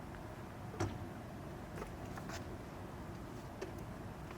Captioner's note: door opens